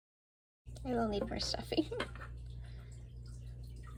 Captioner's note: laughter